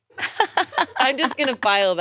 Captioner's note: women laughing